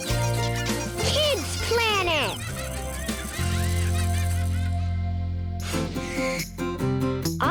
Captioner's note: animals laughing; upbeat music